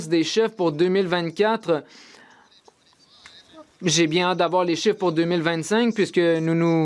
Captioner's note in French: voix de l'interprète